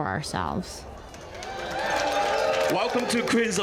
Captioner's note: people clap and cheer